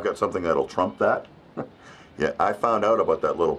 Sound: chuckling

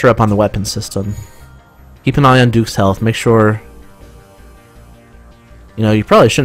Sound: sarcasm

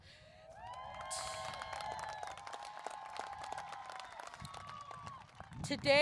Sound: applause, Cheering

